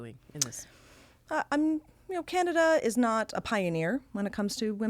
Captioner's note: inhaling sharply